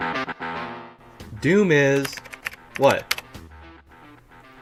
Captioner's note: typing Sound Effect